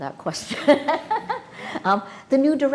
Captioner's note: Maria laughing